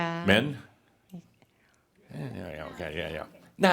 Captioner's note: no response from audience